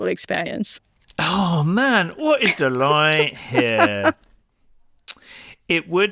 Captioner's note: laughs